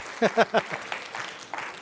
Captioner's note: laughter